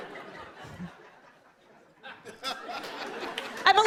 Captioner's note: laughter